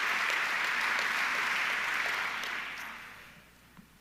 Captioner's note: audience clapping